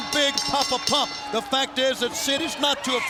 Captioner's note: bell rings